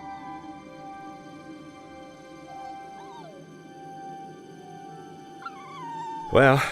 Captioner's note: light music continues; puppy continues whining